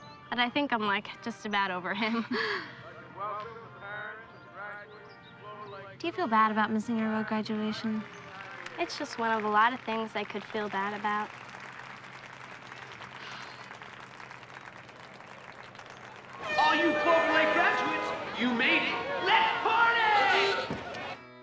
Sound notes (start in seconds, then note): 12.2 crowd applauding